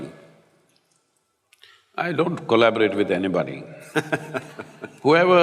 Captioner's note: Matthew Laughs